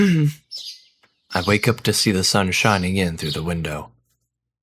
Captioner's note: clears throat